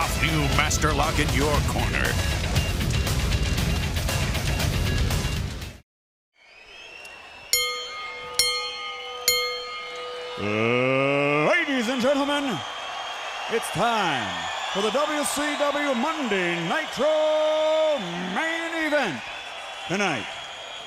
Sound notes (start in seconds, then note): 9.3 crowd cheering; 11.5 bell ringing